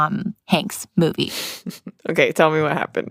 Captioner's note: chuckles